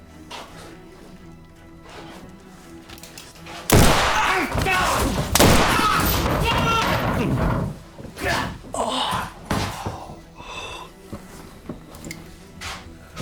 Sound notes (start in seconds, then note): 3.6 gunshot banging; 3.9 outlaw groaning; 6.5 body thumping